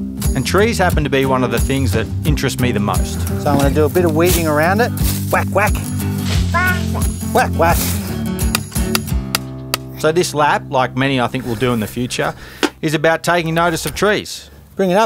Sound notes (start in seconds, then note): 8.4 hammering